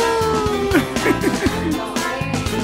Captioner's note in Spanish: se ríe